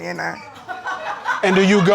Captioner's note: audience laughing